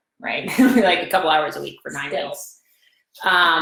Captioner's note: laughs